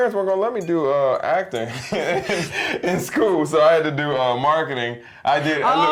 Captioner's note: laugh